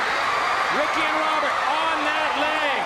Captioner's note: crowd cheering